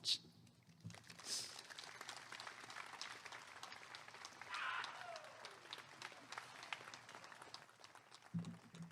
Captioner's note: applause and cheering